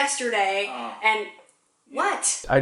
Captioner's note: moaning